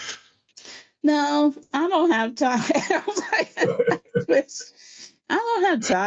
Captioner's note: laughs